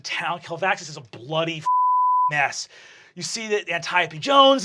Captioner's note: beeping